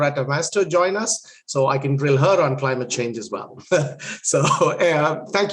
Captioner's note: laughs